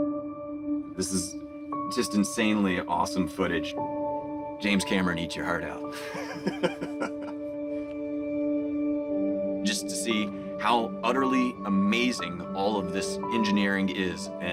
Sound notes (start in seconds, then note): 5.9 laughs